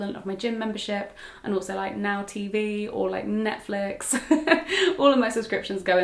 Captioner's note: laughs